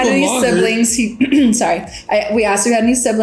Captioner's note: clears throat